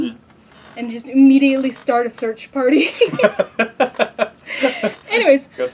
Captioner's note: laugh